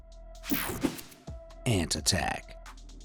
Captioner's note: air whooshing